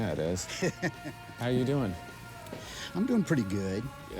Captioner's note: laughs